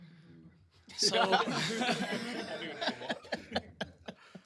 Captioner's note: laughter